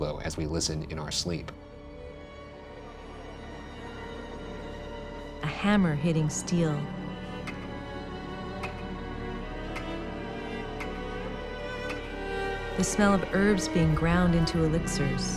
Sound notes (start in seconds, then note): 1.8 suspenseful music; 7.5 clock ticking; 7.5 light music